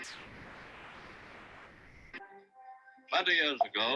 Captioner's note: audio distorting